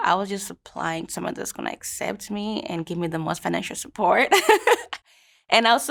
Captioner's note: laughs